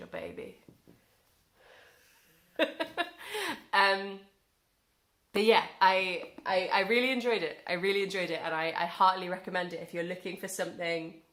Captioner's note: chuckle